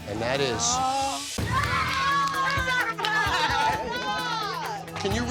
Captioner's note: all cheering